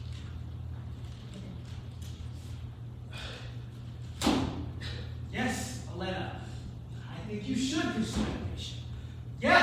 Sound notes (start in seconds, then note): 2.7 scoffs